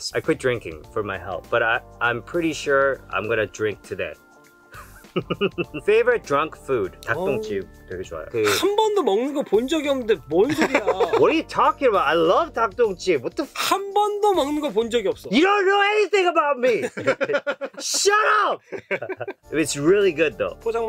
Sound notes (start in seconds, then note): 4.7 chuckles; 7.1 speaking in Korean; 8.4 laughs; 8.4 speaking in Korean; 14.1 speaking in Korean; 16.7 laughs; 20.6 speaking in Korean